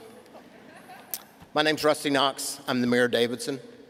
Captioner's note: laughter